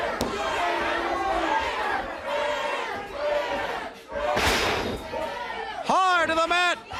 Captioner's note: crowd chatter